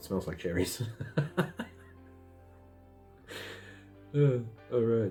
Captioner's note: laughs